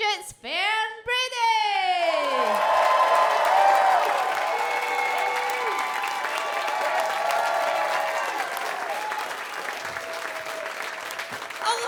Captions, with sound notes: it's Fern Brady. (audience cheers)